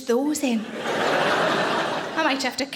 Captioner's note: audience laughing